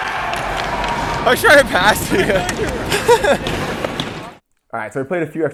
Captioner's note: laughing